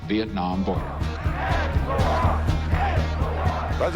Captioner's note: chanting